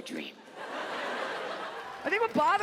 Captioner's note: audience laughs